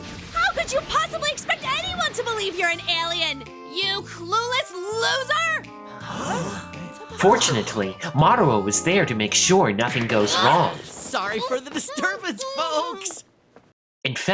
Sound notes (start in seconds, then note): 5.9 shoppers gasp